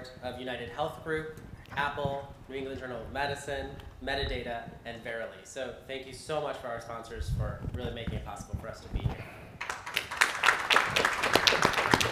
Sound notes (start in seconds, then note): 9.6 applause